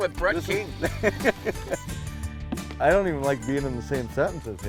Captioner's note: laughing